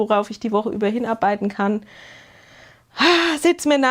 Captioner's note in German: japst; seufzt